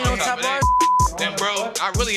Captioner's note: beep